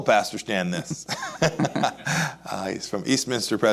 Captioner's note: laughs